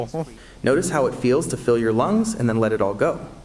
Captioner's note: AI Voice